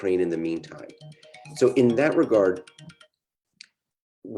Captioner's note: phone ringing